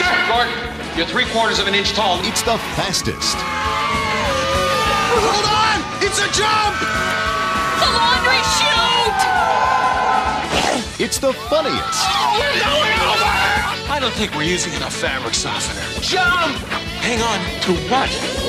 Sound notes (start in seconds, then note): 3.0 screaming; 6.5 screaming Continues; 11.4 screaming